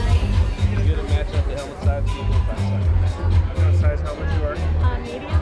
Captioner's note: male Voice